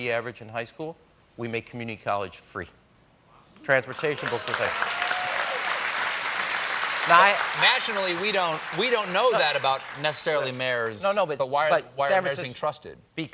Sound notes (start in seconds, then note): 3.9 cheers and applause